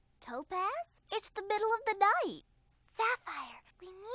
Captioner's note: whispering